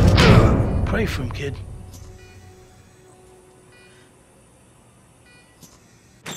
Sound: sound of ventilator; sound of monitor

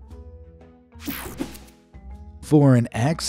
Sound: screen swooshing

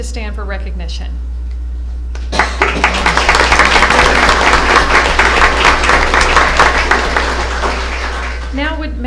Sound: applause

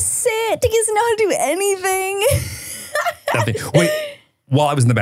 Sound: laughs

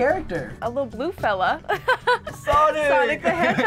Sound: laughs

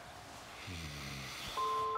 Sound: sleepy sigh; lullaby music

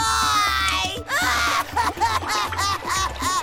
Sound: sobbing

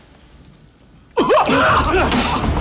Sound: gagging

